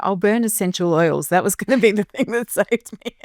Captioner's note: chuckling